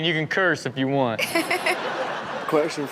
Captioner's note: Chanel laughs